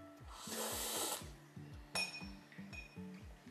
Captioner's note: slurping